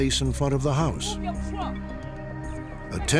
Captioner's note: yelling